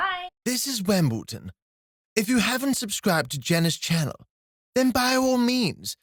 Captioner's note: high-Pitched, Older Male Voice